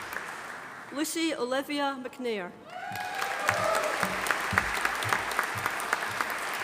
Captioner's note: audience applauding